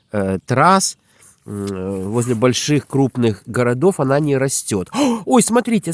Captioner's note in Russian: тяжело вздыхает